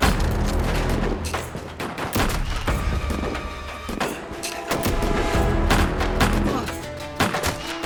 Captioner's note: gunfire